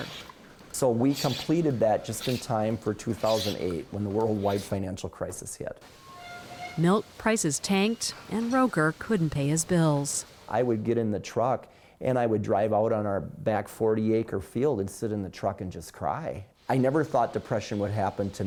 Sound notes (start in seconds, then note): 7.4 voice-over